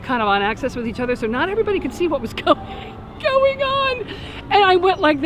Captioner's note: laughs